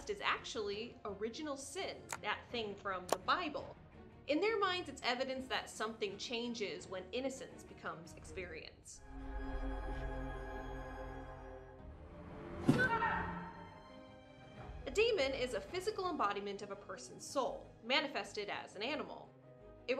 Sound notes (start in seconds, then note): 9.0 eerie music; 12.7 scream